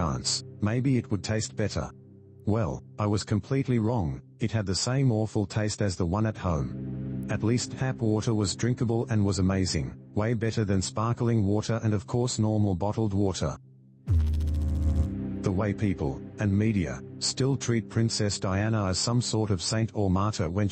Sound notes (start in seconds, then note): 14.0 electrical noise